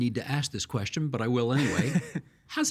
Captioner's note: laughing